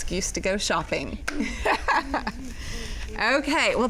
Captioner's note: laughing